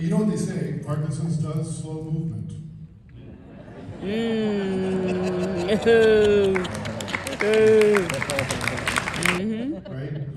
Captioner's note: applaus